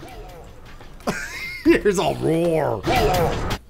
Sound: wheezes

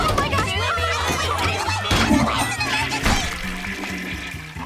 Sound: toilets flushing

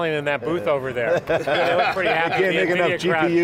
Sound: laugh

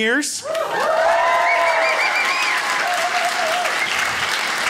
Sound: crowd cheers

